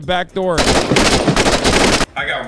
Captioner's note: gunshots